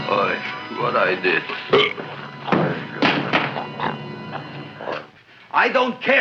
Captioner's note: Audrey Jr. burps; gun thuds